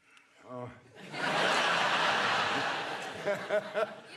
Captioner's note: audience laughing; Ian laughing